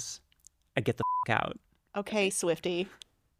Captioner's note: beep